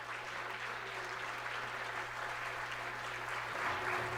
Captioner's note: audience applauds